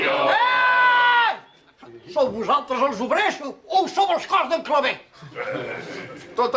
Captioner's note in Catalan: crida